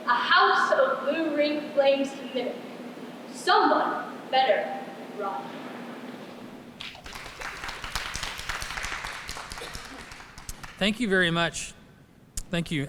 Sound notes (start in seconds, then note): 6.8 applause